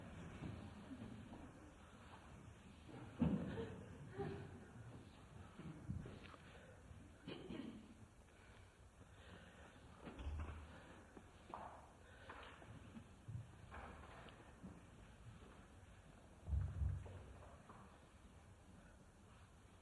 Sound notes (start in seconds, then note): 3.2 laughter; 3.5 laughs